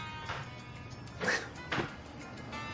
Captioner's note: laughs